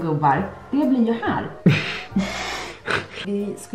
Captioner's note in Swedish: båda skrattar